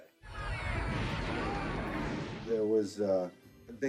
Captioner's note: explosion and screaming